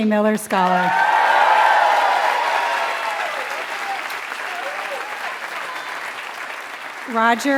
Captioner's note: applause